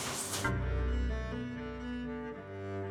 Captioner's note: splash again